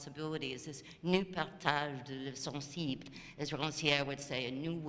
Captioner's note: speaking french